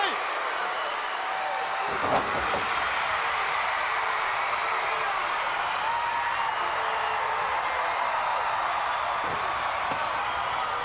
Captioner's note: crowd cheering